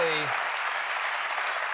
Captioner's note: cheers and applause